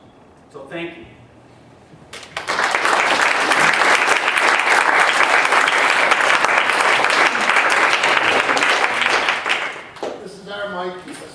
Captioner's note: applause